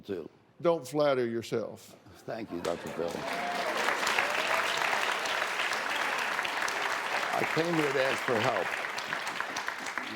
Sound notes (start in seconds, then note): 2.7 applause, scattered cheers